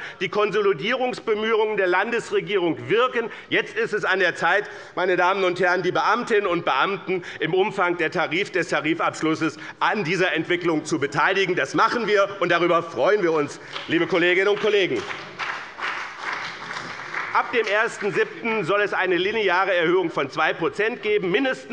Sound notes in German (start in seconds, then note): 15.8 Beifall bei dem BÜNDNIS 90/DIE GRÜNEN und der CDU